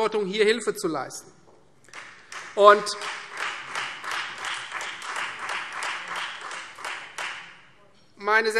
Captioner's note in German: Beifall Freie Demokraten